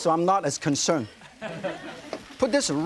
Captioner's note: audience laughing